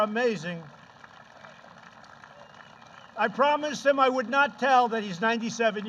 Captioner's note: applause